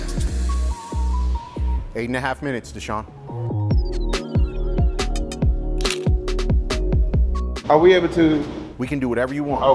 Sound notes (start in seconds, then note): 0.1 upbeat music; 5.8 shutter snaps